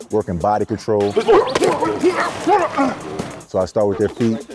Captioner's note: grunting